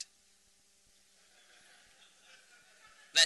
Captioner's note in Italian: Risate